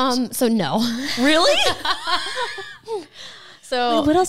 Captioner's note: both laughing